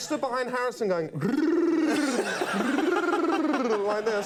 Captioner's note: rolls tongue